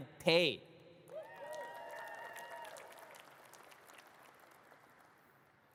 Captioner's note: audience cheers and claps